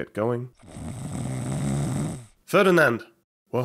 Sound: snoring

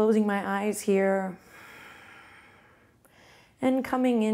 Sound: exhales softly

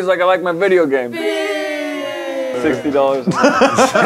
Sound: boo

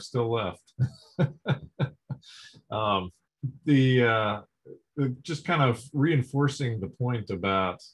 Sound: laughs

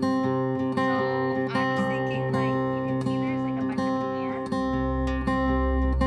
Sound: quietly spoken, with music overlaid

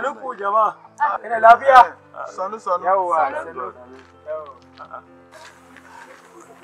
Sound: foreign language

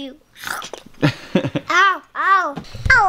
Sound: laughs

